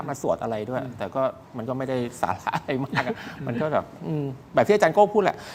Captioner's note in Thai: เสียงหัวเราะ